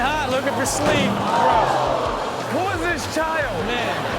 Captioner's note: audience gasps